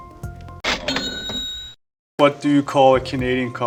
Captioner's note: cash register rings